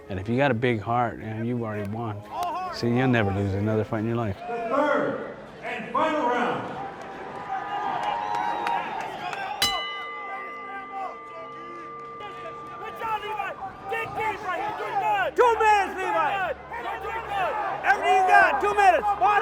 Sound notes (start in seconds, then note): 6.4 bell rings; 6.4 crowd cheering; 10.8 crowd shouting